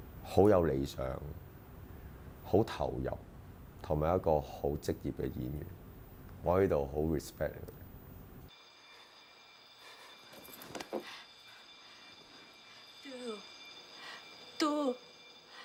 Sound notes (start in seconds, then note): 13.0 speaks in foreign language